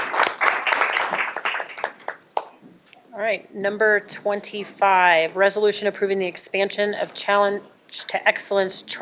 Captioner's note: applause